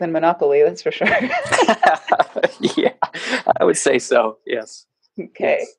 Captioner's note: laughs